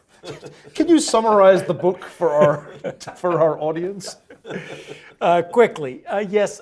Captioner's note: laugh